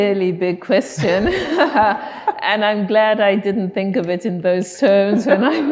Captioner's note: laughing